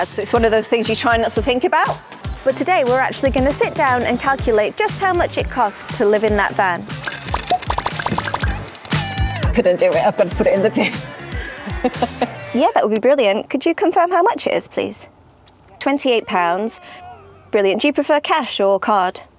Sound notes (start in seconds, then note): 7.0 coin's falling